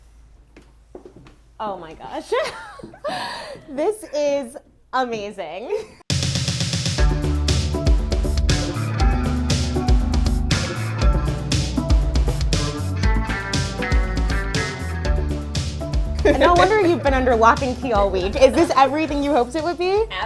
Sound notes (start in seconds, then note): 3.1 laughs; 6.0 upbeat funky music